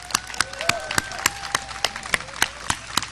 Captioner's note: audience applause